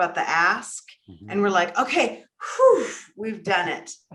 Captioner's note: sighs